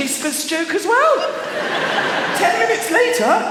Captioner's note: laughter